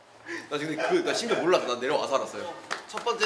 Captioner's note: drill instructor voice came out unintentionally; drill instructor voice came out unintentionally